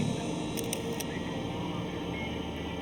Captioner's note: police radio chatter